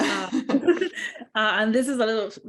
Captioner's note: laughs